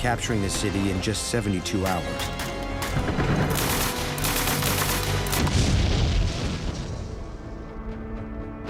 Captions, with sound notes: the city in just 72 hours. [gunfire, explosion]